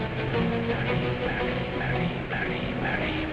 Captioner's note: whisper